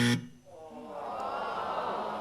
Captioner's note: buzzer